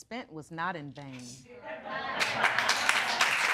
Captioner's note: audience applauding